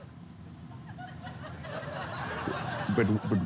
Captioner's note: studio audience laughs